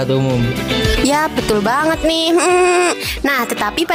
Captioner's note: laughs